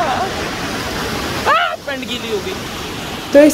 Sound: screaming

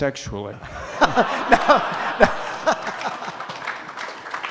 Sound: audience laughs and claps

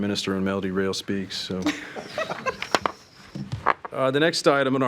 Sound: trustees chuckling

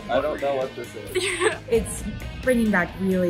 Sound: laughs

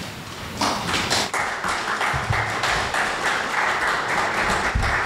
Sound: audience applause

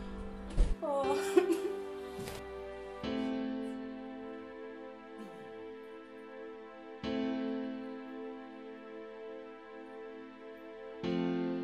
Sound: crying

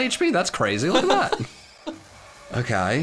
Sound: laughing

